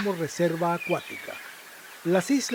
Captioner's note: seagull sound